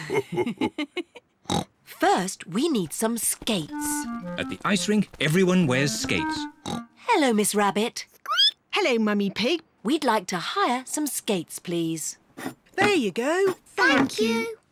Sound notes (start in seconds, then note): 0.0 laughs and snorts; 6.4 snorts; 8.0 squeaks